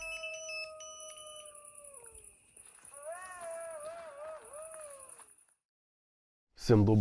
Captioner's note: howl